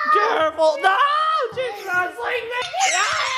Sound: screams

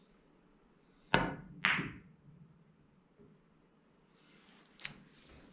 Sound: pool balls tapping

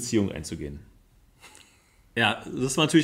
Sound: laughs

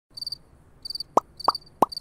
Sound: crickets chirping; popping noises

